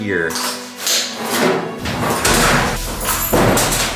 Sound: safe scraping; loud thud

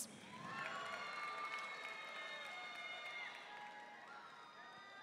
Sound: audience cheering and applauding

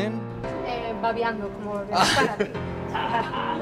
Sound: lady speaking in Spanish; laughing

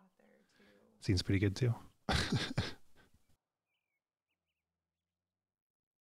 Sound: laughs

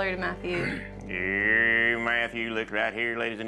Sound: speaks fast as auctioneer

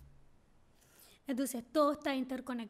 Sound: speaking spanish

